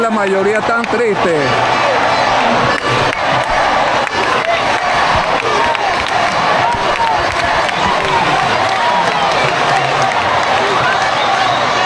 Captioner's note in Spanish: ovación